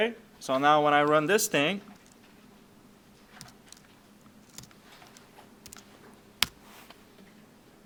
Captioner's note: clicking Sounds